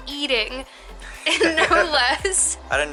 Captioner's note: laughter